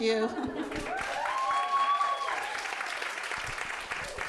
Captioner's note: audience cheering